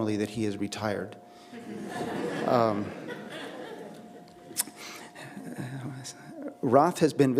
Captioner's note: laughter